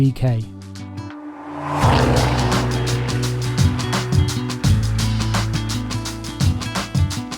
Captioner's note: engine rumbling; light music